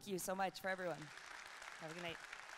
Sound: audience clapping

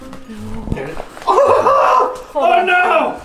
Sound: screams

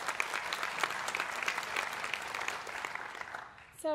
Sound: applause

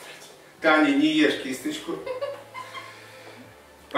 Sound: is laughing

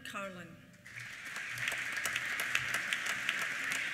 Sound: applause

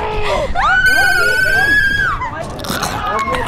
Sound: screams

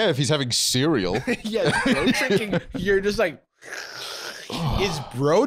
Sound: slurping

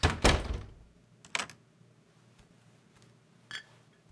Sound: door clicks; bottles clink

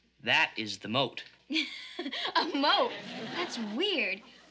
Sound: laughs

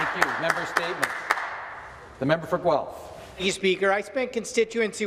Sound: applause

